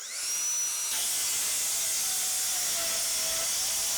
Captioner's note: saw grinding